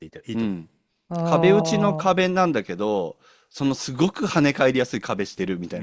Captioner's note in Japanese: 咳払い